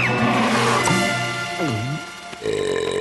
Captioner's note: gulp; burp